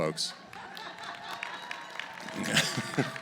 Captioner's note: laughter; applause